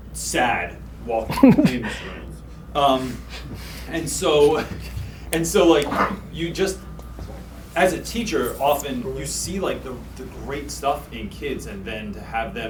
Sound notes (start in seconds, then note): 1.2 chuckles; 2.8 laughs